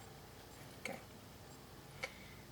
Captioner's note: whispers